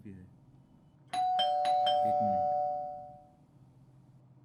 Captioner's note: doorbell rings